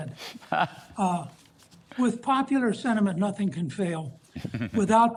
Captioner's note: laughter